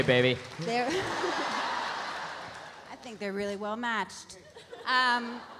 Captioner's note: laughs; audience laughs